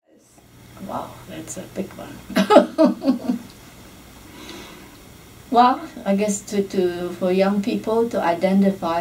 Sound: laughs

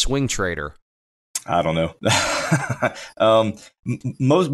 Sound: laughs

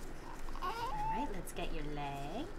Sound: baby fussing

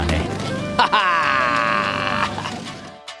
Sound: evil laugh

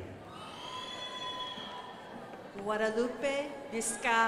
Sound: crowd applauding

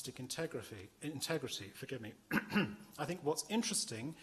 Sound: clears throat

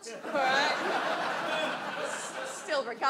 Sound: audience laughs

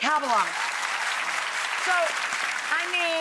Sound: applause

